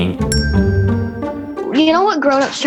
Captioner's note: chime